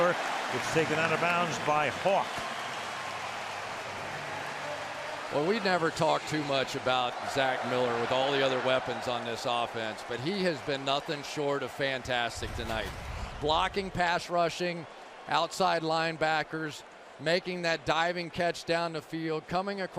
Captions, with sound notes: And again, it's Miller gets taken out of bounds by hawk. [cheering] Well, we never talked too much about Zach Miller with all the other weapons on this offense. But he has been nothing short of fantastic tonight-- blocking pass rushing, outside linebackers, making that diving catch down the field,